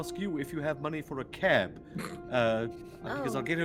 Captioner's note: Cornette laughs